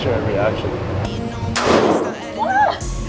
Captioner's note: gun booms; laughs